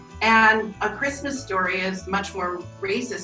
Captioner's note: bells jingling